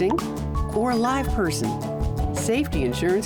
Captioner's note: cellphone chirps; cellphone rings